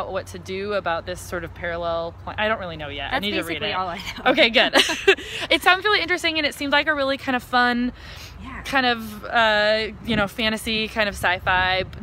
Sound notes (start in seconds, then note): 3.8 laughs